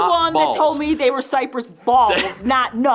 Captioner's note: chuckles